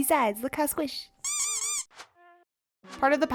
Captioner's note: squeeky toy noises